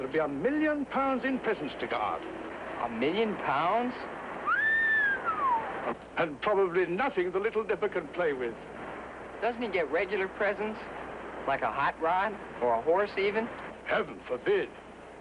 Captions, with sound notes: GOING TO BE A MILLION POUNDS IN PRESENTS TO GUARD. A MILLION POUNDS? [WHISTLES] AND PROBABLY NOTHING THE LITTLE NIPPER CAN PLAY WITH.H.H. DOESN'T HE GET REGULAR PRESENTS, LILI A HOT ROR OR A HORSE EVEN? HEAVEN FORBID.